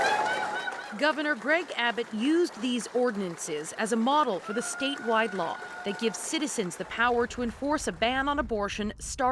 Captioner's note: applause